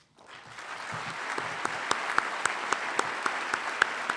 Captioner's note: applause